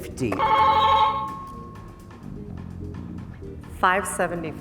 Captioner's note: buzzer ringing